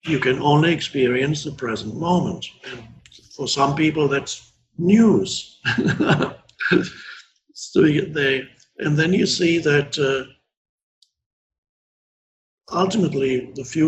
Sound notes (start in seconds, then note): 5.6 laughing